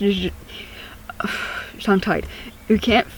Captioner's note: annoyed sigh